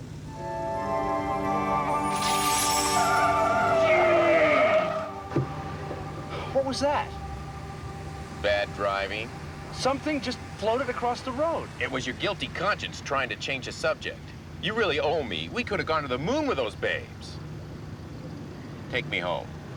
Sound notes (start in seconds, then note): 0.1 ominous music playing; 2.3 tiers screech